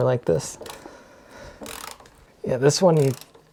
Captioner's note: ratcheting